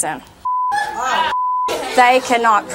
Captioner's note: audience cussing